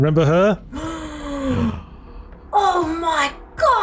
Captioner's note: gasp